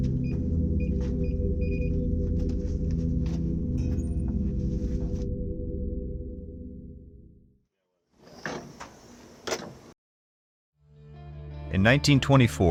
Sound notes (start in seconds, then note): 0.7 door closes; 0.7 keys being pressed on door